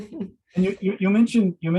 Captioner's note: laughs